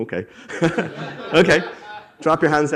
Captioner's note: attendees laughing